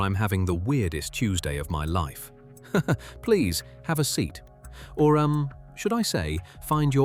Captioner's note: laughs